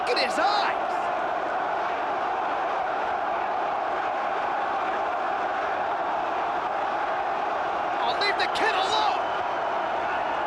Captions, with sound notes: Look at his eyes! (crowd chants "One more time") Oh leave the kid alone!